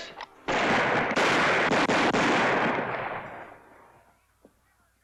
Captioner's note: gunshots